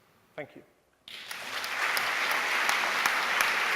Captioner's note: applause